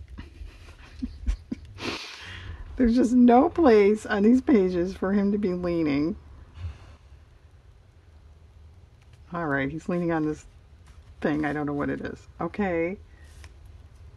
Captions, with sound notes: (laughs) there's just no place on these pages for him to be leaning all right he's leaning on this thing I don't know what it is okay